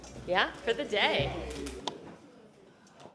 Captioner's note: sounding gavel